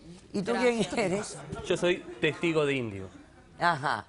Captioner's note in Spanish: Risas